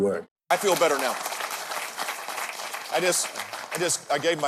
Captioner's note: audience clapping